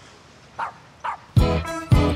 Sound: bark

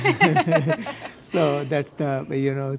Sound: panel members laughing

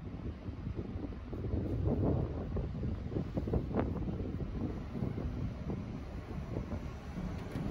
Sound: wind

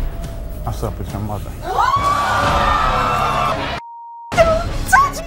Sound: audience screaming

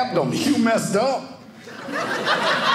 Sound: audience laughing

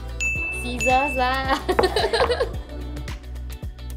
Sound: laughs

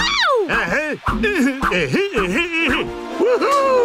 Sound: grunting

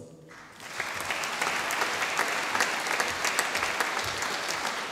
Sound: audience applauding

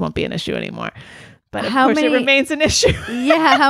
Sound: laughs

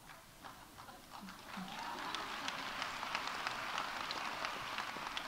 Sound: audience laughs; audience applauding

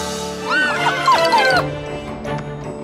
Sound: whimpering

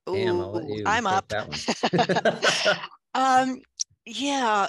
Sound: laughter

